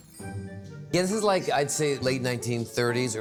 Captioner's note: none